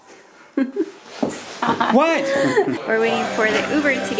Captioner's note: giggling